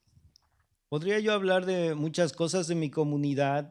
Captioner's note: speaking spanish